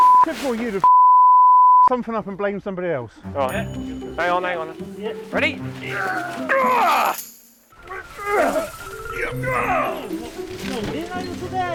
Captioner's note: men grunt